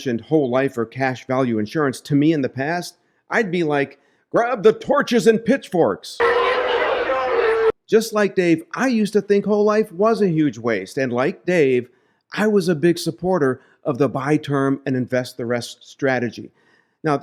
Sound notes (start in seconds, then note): 6.2 angry crowd